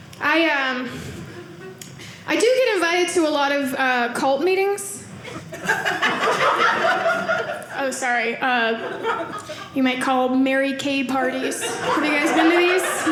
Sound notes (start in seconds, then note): 5.4 audience laughing